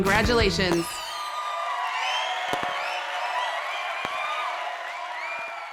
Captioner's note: crowd applauding